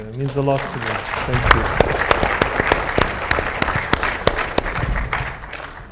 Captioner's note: everyone applauding